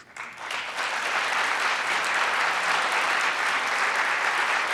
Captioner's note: audience applauds